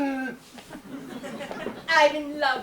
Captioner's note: audience laughs